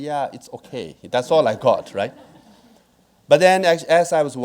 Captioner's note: audience laughing